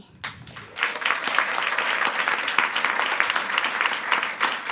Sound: attendees applauding

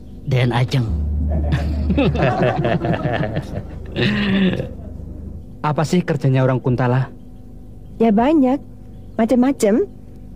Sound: laughs

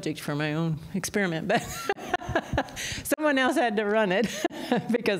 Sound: laughter

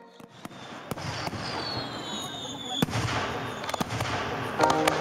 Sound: fireworks popping

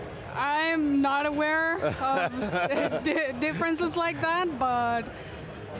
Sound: laughs

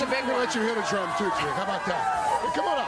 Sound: cheers and applause

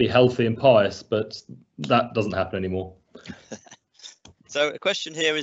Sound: laughs

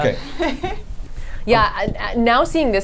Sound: laughs

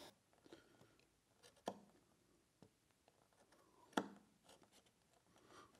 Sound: knife scratching

